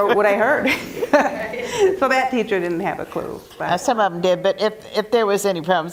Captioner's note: laugh